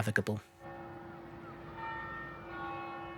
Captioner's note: sound of a bell ringing in the distance